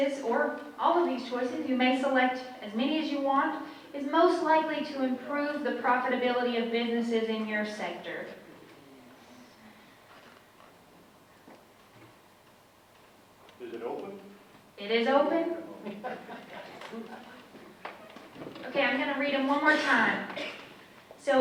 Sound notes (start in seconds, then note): 15.9 audience member laughs